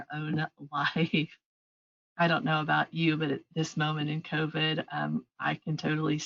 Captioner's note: chuckles